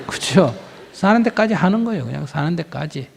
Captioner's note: audience Laughter